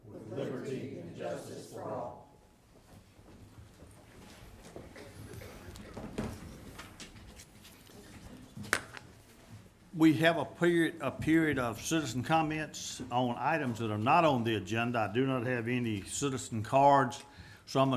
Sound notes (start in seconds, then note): 4.9 group murmuring